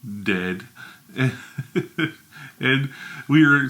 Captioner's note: chuckles